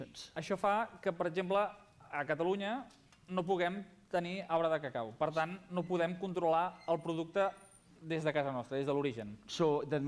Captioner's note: non-english speech